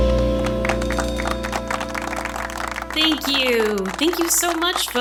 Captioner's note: scattered applause over ambient crowd noise